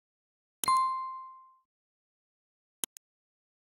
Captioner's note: bell chimes